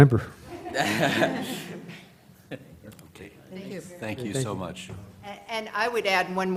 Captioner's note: laugh